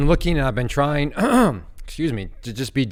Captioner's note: clears throat